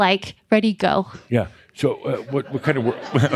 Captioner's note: laughter